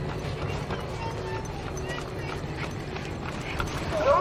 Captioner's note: distant children crying